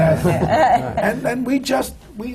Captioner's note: laughter